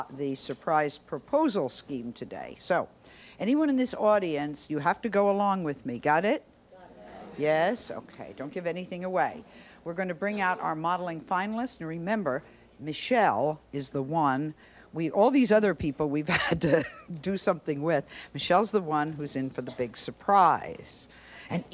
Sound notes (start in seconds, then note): 6.7 audience in agreement